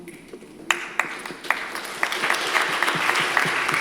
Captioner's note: audience applauds